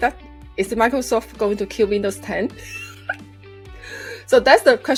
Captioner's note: laughs